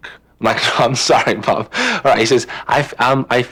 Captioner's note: laughing